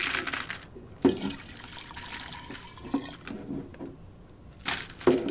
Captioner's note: ice clinking; water pouring